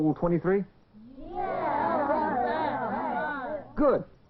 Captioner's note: murmurs of approval